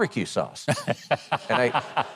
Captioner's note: Mike laughing